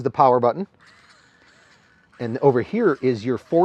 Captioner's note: TFX 3 Hopper whirring